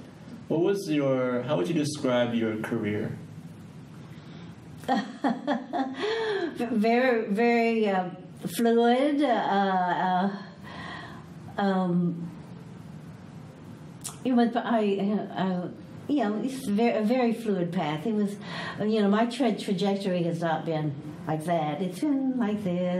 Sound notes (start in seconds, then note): 4.8 laughs